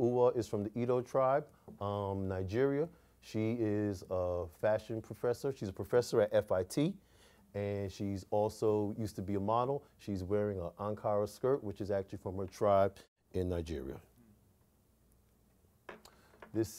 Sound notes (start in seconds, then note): none